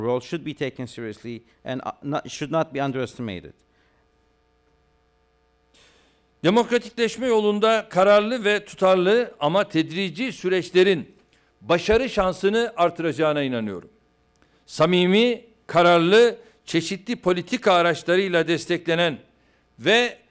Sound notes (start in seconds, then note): 8.1 non-english speech